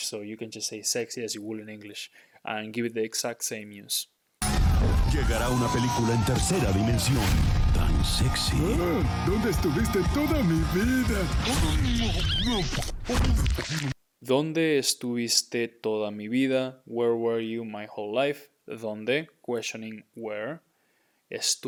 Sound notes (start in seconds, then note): 4.6 speaking in Spanish; 14.4 speaking in Spanish